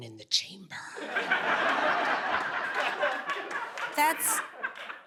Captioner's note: laughing